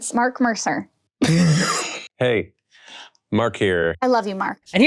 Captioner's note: laughs